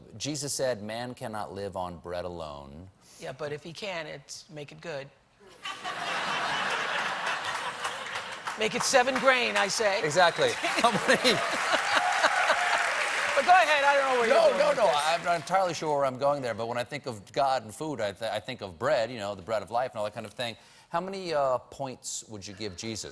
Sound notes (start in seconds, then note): 10.4 laughter; 11.1 applause; 11.1 cheers